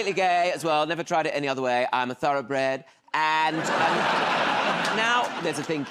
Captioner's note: laughter